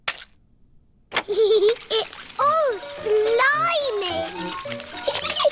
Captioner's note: giggles